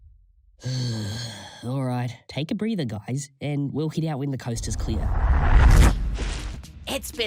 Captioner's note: exhale